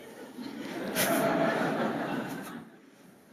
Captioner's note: laughter